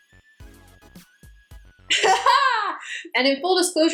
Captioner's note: laughs